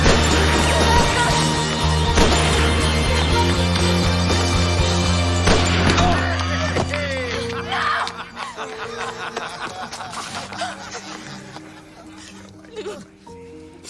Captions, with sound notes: FASTER. - ( Harry laughing ) - NO! NO.